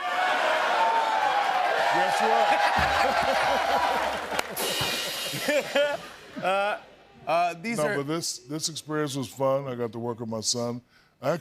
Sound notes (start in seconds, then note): 0.0 cheering; 2.9 laughter